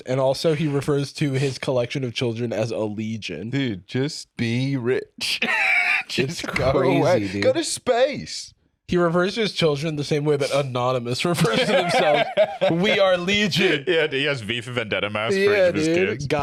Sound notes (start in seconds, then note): 5.2 laughs